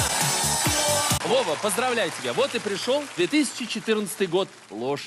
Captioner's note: non-english speech